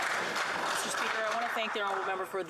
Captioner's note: some Applause